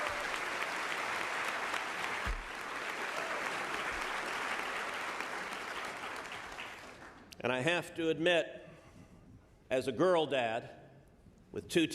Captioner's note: applause